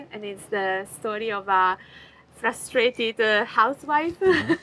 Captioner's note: chuckles